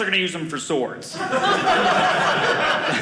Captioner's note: audience laughing